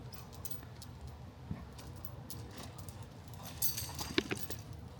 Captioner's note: chain clanking